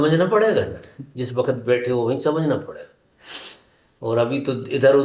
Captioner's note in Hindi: नाक से की जाने वाली आवाज़